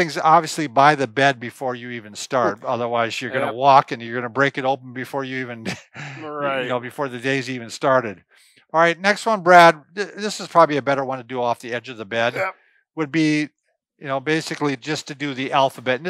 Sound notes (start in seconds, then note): 5.5 chuckles; 12.3 grunts